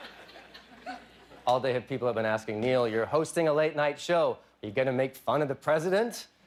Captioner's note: laughter